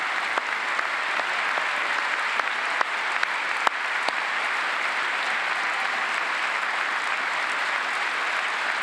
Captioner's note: applause